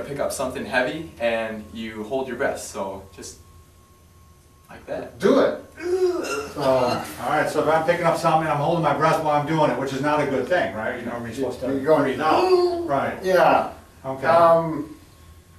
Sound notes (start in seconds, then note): 5.8 grunting; 13.2 grunting